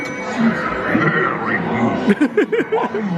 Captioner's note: laughs